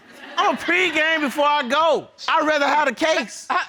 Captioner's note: audience laughing